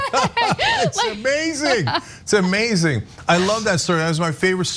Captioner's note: laugh